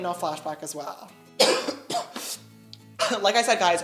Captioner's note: sarcastic cough